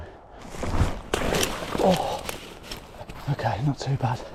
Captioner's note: water splashing; grunts